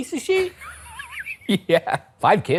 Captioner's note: laughing